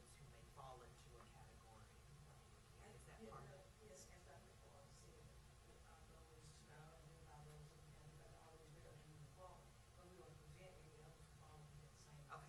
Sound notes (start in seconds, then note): 7.2 teacher speaking off microphone